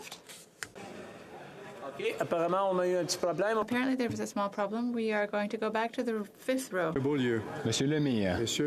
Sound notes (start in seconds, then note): 1.0 speaking French